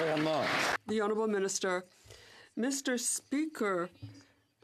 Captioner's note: some Applause